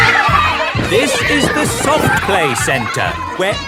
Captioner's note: loudly over shouting